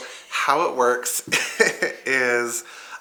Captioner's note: chuckles